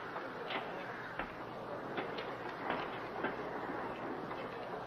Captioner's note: footsteps approaching